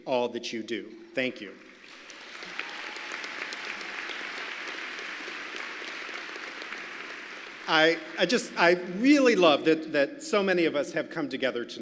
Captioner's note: applause